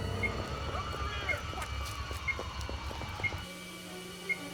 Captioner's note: indistinct police chatter; dramatic music